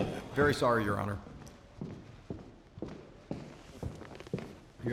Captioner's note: footsteps